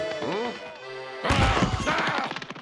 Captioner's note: yells angrily